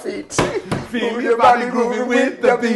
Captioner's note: hands banging